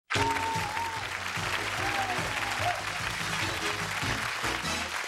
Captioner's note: cheers and applause; upbeat music